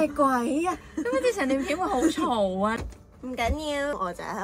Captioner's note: car sound